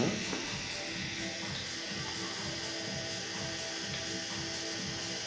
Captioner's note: tattoo needle buzzing